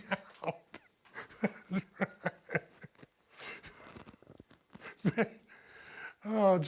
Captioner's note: laugh